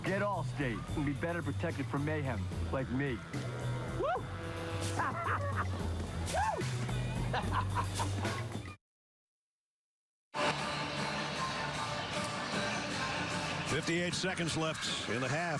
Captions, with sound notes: So, get Allstate and be better protected from mayhem... Like me. (laughing) Woo!